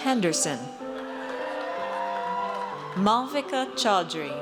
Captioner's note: audience cheers